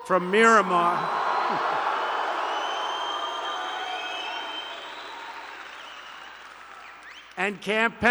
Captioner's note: applause